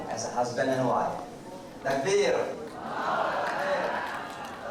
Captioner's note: crowd murmurs congratulations